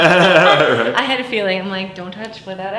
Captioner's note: laughing